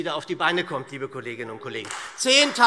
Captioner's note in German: Beifall SPD und Freie Demokraten